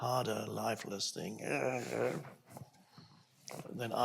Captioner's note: pained groaning